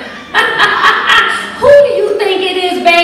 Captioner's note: laughter